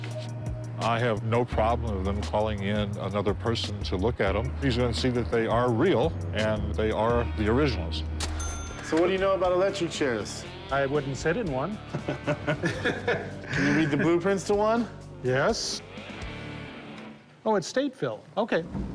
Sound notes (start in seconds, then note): 11.8 laughter